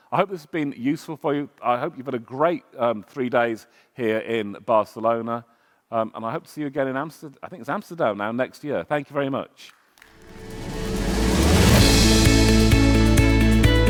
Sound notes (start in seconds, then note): 9.9 audience clapping; 10.2 upbeat music